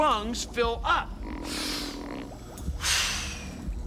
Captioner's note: inhaling, exhaling